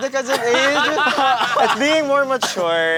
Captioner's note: laughter